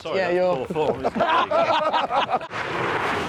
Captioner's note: they laugh